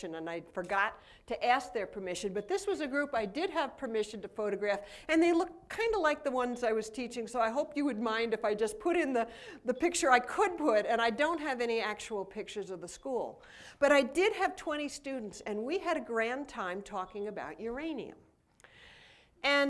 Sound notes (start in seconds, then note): none